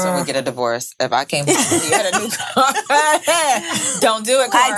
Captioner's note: laughing